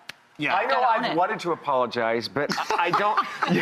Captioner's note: laughs